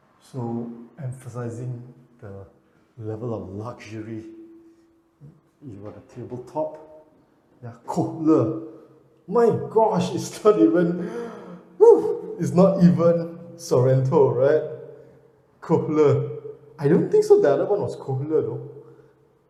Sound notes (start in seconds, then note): 11.8 whistling